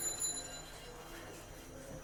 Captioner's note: none